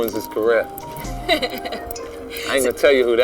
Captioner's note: laughs